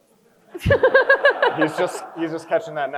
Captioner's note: crowd chuckles